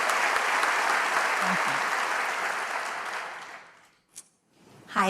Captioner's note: applause